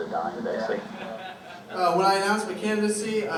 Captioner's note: laughter